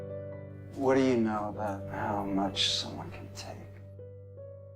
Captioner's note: voiceover